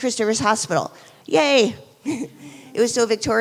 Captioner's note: chuckles